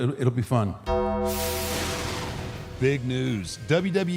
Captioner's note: bell rings